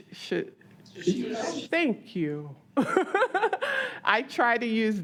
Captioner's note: laughs